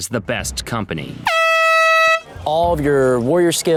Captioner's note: air horn blares